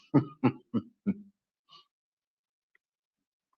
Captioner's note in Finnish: naurua